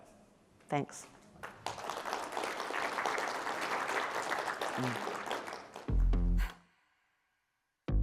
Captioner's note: applause